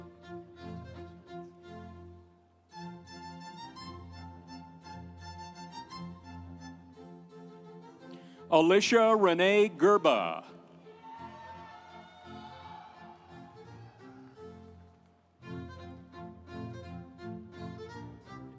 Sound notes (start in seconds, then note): 10.8 audience cheering; 15.4 instrumental music